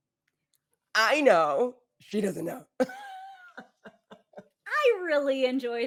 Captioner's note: laughing